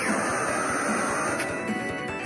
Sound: dragon screech

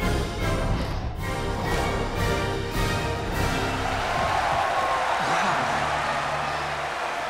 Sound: cheering and applause

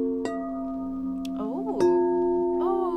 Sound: bowls chiming

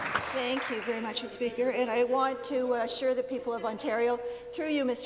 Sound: applause

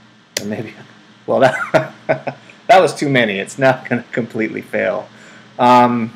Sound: laughing

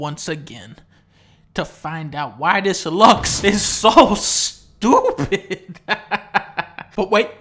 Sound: laughs

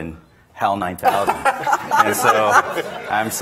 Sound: laughing

